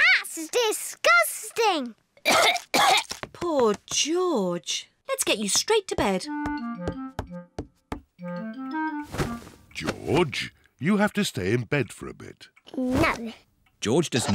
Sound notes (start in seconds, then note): 2.2 coughs